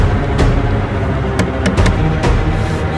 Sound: door knocks

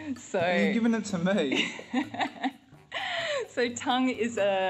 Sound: laughter

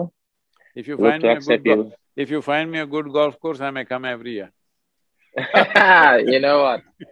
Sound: both laugh

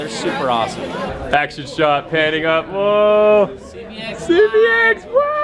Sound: deep Voice

